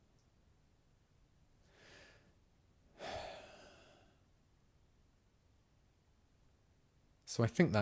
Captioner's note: silence; sigh